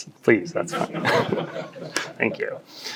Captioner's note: audience laughs